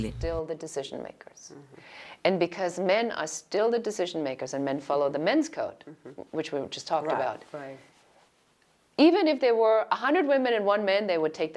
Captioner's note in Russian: Разговаривают на английском